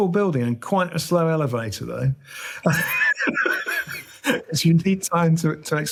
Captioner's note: laughs